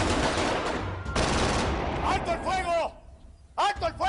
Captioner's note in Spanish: Disparos